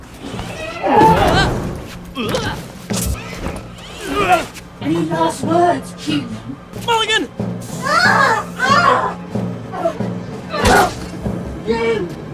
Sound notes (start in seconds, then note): 7.8 howling